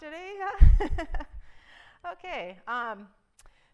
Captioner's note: chuckle